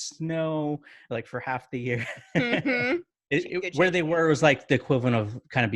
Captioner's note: chuckling